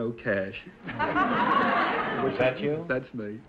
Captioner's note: audience laughter